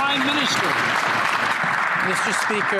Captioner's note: some Applause